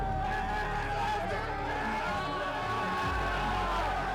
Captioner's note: crowd cheering